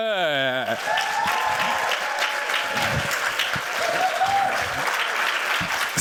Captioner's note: cheers, applause